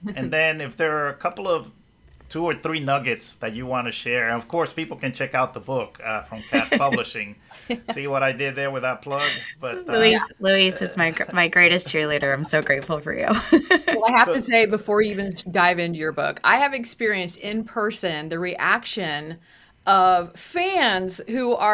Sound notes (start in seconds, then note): 6.4 laughs; 13.3 laughs